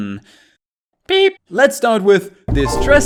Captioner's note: beep-sfx